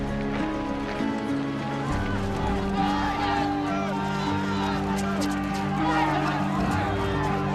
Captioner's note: crowd shouting angrily